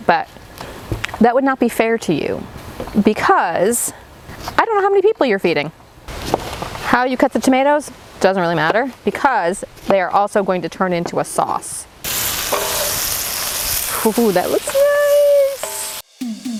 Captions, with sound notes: but that would not be fair to you because I don't know how many people you're feeding. How you cut the tomatoes doesn't really matter because they are also gonna turn into a sauce. (onions sizzling) Oh, that looks nice!